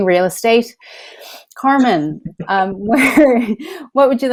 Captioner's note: laughs